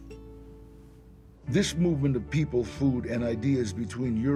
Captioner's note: in English